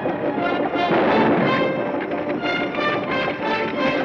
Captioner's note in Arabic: اطلاق نار